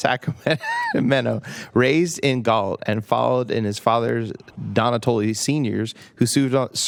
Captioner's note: laughter